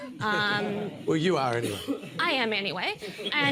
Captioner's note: laughter